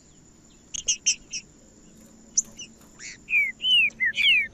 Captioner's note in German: trinca ferro cantando